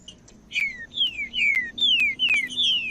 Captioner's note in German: trinca ferro cantando